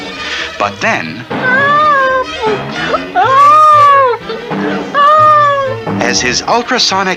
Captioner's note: bouncing!